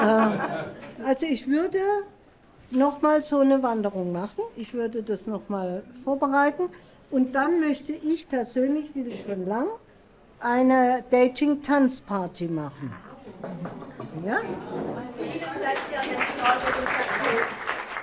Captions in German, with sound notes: Also, ich würde noch mal so eine Wanderung machen. Ich würde das noch mal vorbereiten. Und dann möchte ich persönlich, das will ich schon lange, eine Dating-Tanzparty machen. (Zustimmende Laute) Ja? Vielen Dank! (Klatschen)